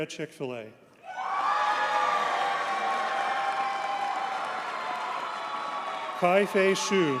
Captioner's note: audience cheers and applauds